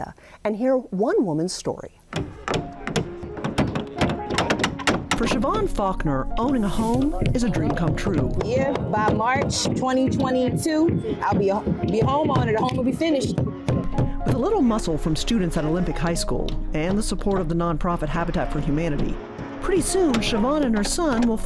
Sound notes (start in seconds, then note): 2.1 hammers bang; 2.3 gentle pleasant music